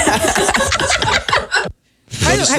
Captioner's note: laughing